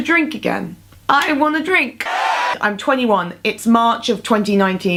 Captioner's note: cheers in the background